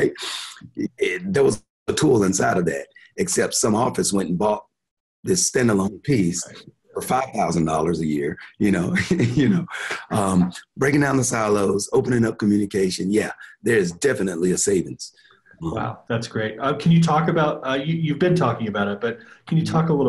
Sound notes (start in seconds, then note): 8.7 chuckling